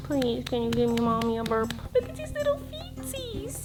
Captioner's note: baby talk